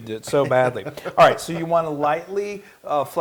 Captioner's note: laugh